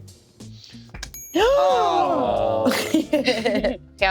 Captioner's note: gasps; laughs